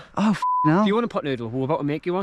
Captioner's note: beep